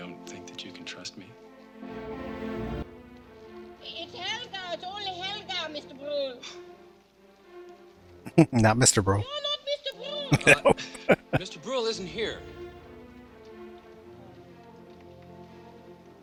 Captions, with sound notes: Not Mr. Bruhl. No. [Laughing]